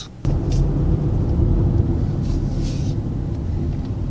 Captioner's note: car engine whirring